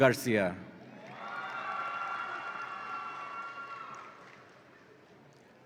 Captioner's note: audience applauds and cheers